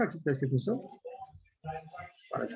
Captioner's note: non-english